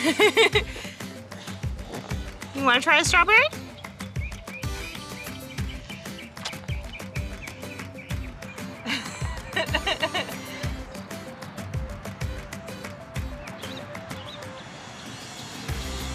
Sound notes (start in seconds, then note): 0.0 laughing; 4.3 birds chirping; 8.8 laughing; 10.7 mellow music